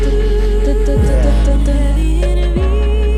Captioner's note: vocalizes percussion